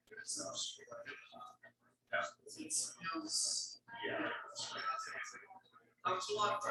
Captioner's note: people chattering indistinctly continues